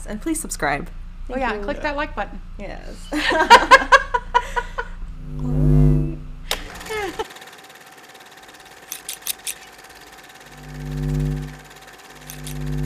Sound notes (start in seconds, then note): 6.4 filmstrip running; 9.1 scissors slicing